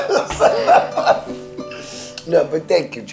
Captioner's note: both laughing